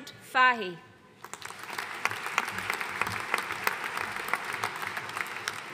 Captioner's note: audience applauding